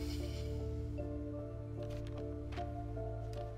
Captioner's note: none